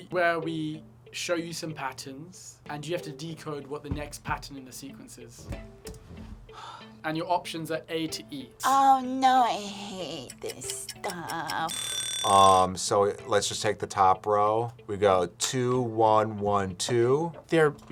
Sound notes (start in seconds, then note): 5.6 sighs; 11.6 bell rings